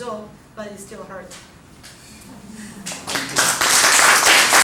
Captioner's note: applauding